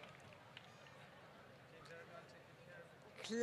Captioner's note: applause